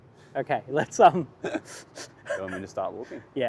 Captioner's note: laughs